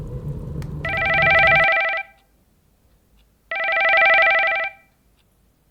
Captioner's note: telephone ringing